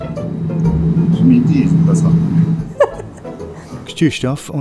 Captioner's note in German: lacht